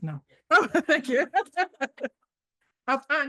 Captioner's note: laughs